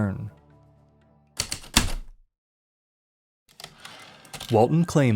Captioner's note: heavy typewriter keystrokes, return slide